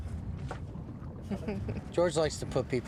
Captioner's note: Cecile chuckles